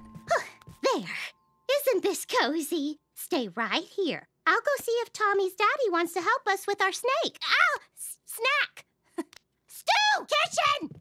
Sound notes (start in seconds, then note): none